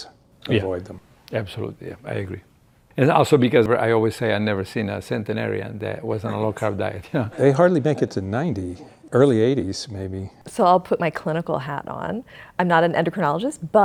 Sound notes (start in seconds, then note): 6.2 chuckles